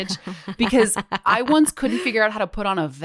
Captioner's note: laughs